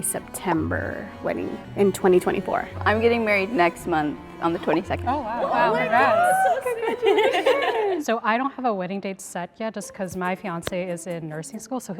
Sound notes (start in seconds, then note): 7.5 women laugh